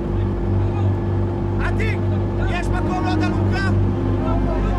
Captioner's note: Hebrew spoken audio